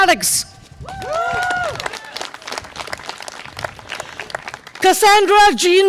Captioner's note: audience applause and cheer